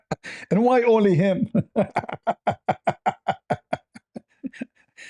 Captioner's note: ketawa